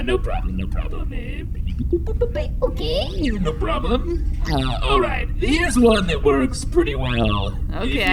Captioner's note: beeping, voice sliding a little higher